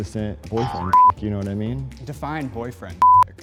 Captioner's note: beep; beep